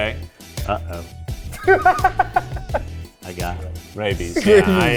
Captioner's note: laughing